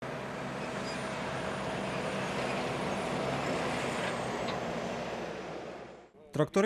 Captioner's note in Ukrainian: Звуки двигуна